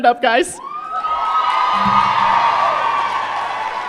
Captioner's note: applause